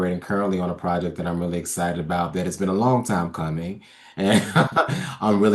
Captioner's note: laughs